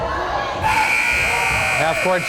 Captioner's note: timer buzzes